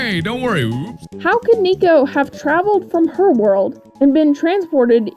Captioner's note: regular voice